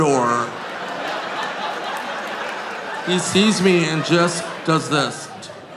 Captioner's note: audience laughing